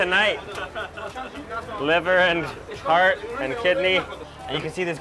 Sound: laughs

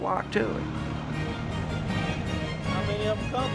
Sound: car engine roaring

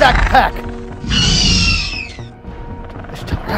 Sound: Raptor Squeals

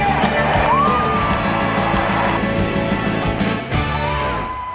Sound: cheering

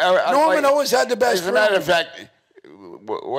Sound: stuttering

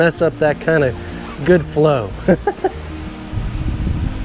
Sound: laughs

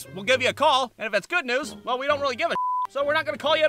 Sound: beep

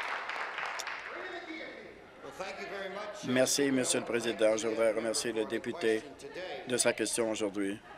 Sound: applause

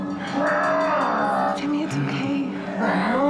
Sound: Sammy grunts

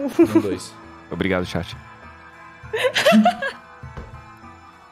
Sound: laughter

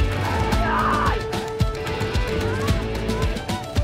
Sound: Mully screaming

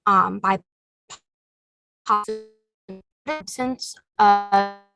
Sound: distorted audio

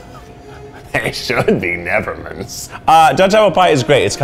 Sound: laughs

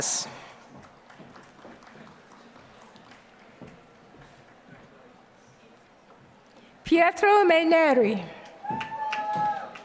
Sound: applause; applause

